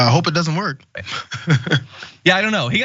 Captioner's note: laugh